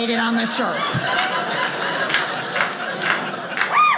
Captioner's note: audience laughing